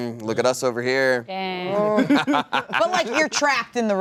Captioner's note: evil laughter